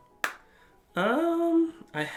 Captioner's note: snaps shut